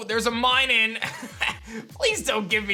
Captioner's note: chuckles